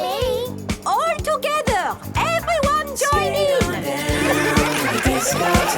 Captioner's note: laughter